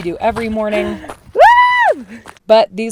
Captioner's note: cheering